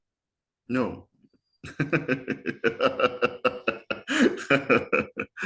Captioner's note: laughs